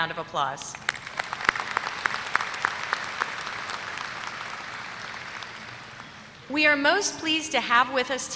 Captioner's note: applause